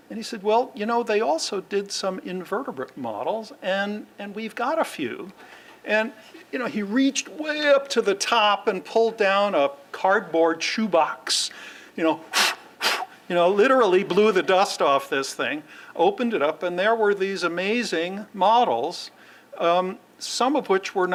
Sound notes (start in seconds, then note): 12.2 blowing